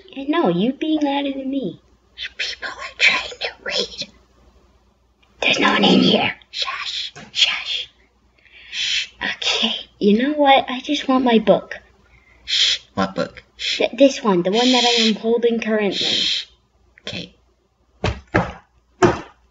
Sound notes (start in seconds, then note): 8.4 inhale; 19.0 impact sounds